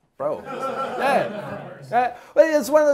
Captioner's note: class laughing